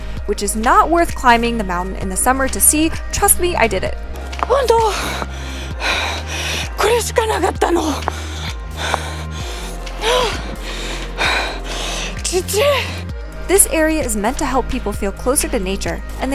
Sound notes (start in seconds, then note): 4.6 heavy breathing; 7.6 more heavy breathing